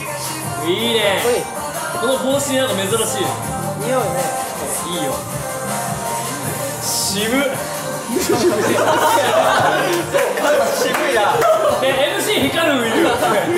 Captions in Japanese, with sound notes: いいねぇ～！ かっこいい 似合うよねぇ うん いいよ 渋い？ （笑い） そう？ 渋いなぁ